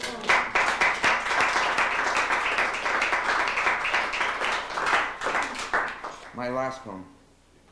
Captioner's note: applause